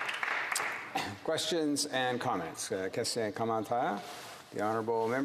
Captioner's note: some Applause